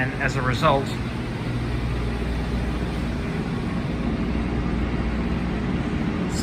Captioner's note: whirring Machinery Noise